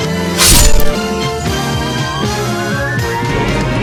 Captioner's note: slash!